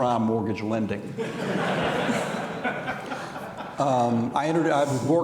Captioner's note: audience laughing